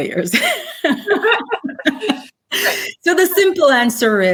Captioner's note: both laugh